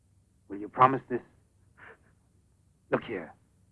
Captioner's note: light sobbing